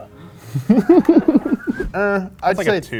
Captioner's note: laughs